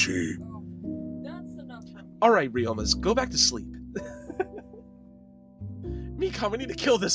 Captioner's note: small chuckle